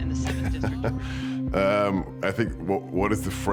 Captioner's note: chuckles